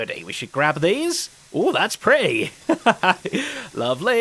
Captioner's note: laughs